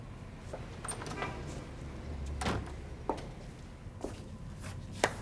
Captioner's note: door opens and closes